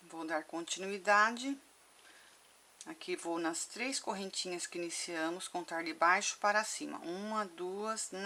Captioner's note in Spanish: en español